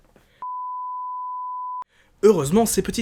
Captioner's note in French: biiiiiip